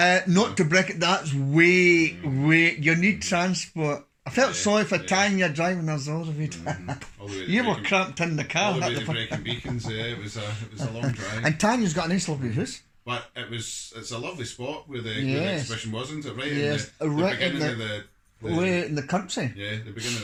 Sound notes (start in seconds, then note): 6.3 laugh; 6.3 laughs